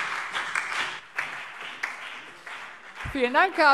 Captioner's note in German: Beifall BÜNDNIS 90/DIE GRÜNEN, SPD und DIE LINKE